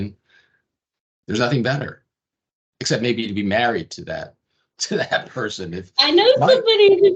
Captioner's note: laughing